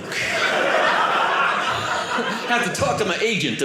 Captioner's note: audience laughing